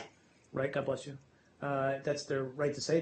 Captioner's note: sneeze